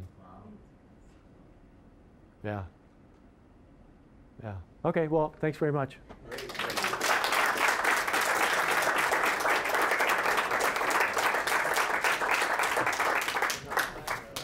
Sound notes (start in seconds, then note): 6.2 applause